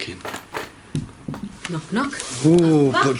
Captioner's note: soft knocks